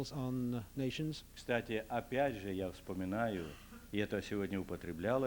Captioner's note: non-english speech